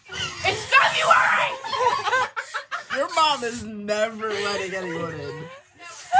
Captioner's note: laugh